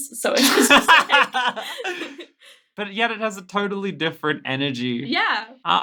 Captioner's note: laughing